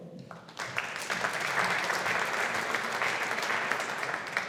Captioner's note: audience applauding